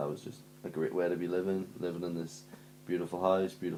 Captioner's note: none